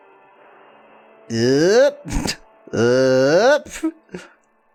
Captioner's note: groans